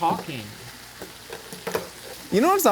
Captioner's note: bologna sizzling